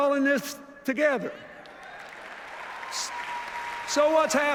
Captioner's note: applause